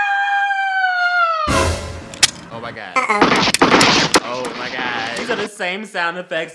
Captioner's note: gun clicks